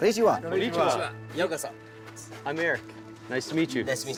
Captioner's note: japanese